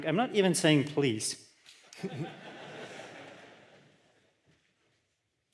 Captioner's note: laughter